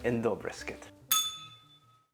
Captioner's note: bell rings